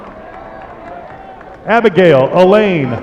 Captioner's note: applause